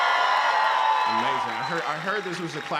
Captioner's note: cheering